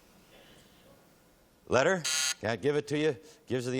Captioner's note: buzz